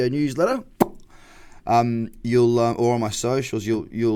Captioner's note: pops lips